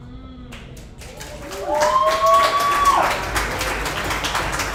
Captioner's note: audience applauds